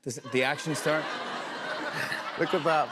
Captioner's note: laughter